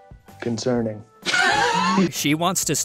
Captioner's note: wheezing